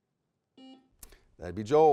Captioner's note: buzzer beeping